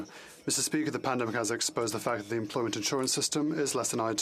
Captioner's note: speaking Spanish